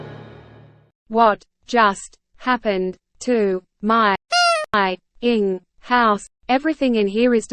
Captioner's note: beep